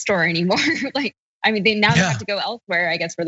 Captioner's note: laugh